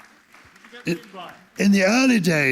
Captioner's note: applause